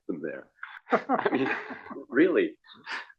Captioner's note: laugh